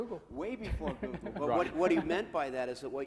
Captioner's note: laughs